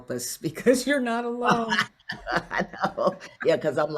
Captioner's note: both laugh